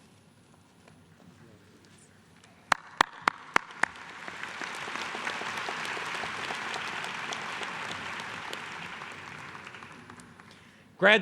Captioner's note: applause